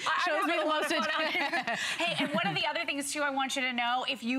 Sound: laughter

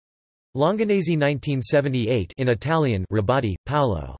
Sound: in Italian

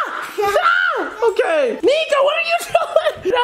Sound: screams

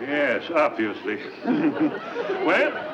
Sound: professor chuckles

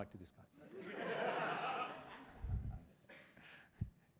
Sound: laughter

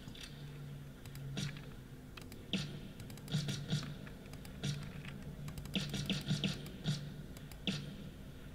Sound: shots

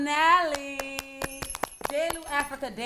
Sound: clapping

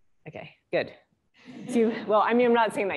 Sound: laughter

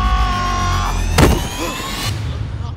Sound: punches

